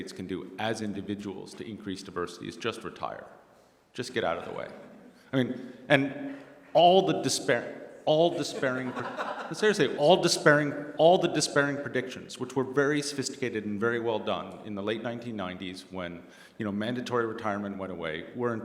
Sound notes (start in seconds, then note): 8.3 laughter